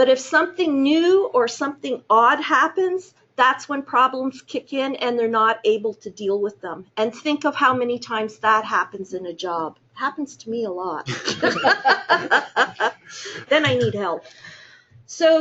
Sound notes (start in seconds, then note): 11.0 chuckling